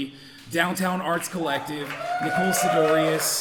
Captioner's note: audience cheering